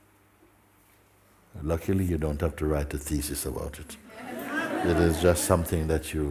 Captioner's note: laughter